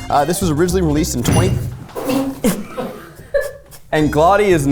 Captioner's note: table rattles; laughs